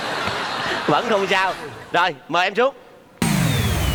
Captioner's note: laughing